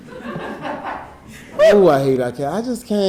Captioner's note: audience laughing